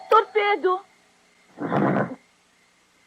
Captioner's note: horse snorts